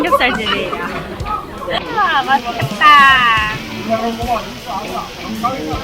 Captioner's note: sound of meat sizzling